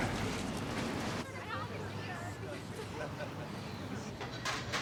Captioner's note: people murmuring